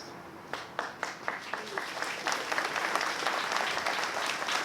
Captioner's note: applause